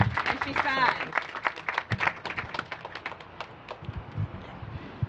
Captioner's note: applause